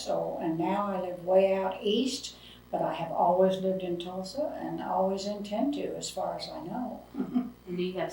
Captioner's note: laughs